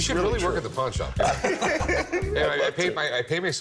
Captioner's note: both laugh